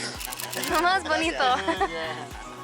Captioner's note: laughter